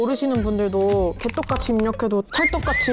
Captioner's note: typing sound